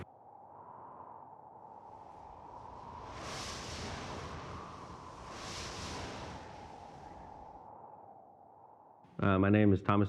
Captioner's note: cold wind